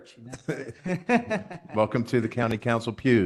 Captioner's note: laugh